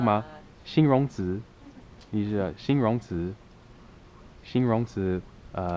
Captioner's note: mandarin